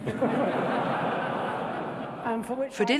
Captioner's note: audience laughing